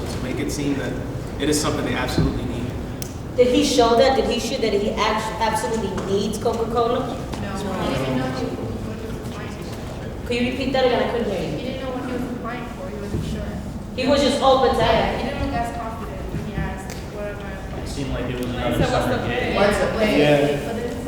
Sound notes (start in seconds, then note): 17.1 crowd mumbles and talks over each other